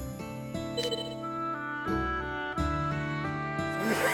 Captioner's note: beep, beep